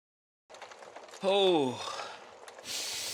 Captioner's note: Nick, sighing